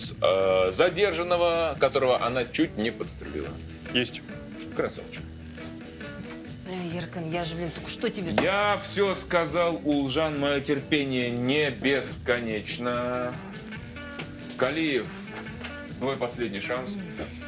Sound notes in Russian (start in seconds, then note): none